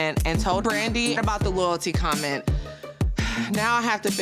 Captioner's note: sighs